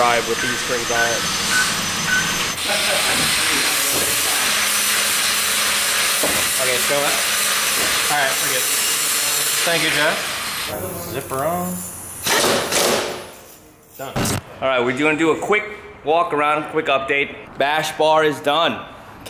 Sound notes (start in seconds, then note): 14.1 static